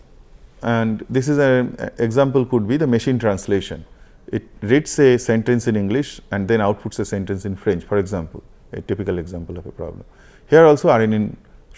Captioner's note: feedback